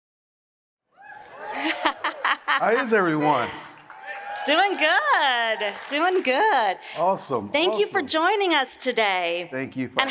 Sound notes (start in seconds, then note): 1.3 laughs